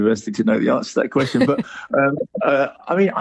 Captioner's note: laughs